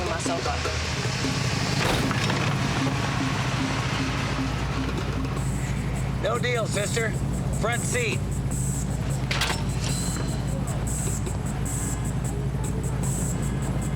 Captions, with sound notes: then I ain't never giving myself up. (engine rumbling) - No deal, sister. Front seat. (sighs) ■